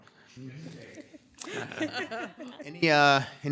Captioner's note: group laughs